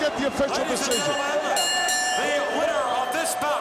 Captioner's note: bell ringing